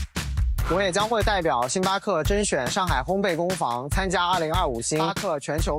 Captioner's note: speaking chinese